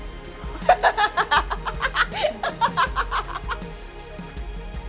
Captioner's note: laughing